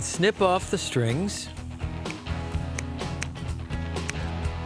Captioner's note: snipping